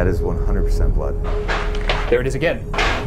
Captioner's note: something clatters